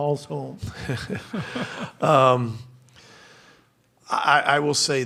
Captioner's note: laughter